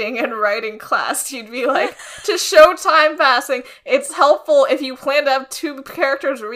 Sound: laughs

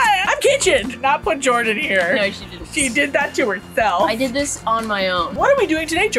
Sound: quietly

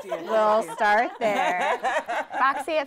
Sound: laughing

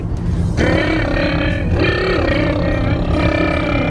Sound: buzzes lips

